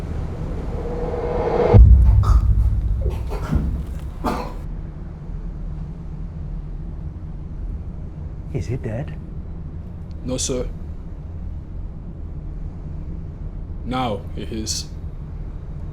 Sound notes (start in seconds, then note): 0.1 dramatic music; 2.4 Jimmy moaning